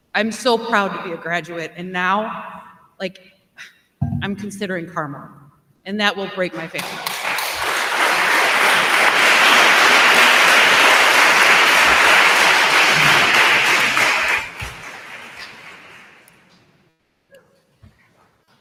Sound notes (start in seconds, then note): 7.6 attendees applauding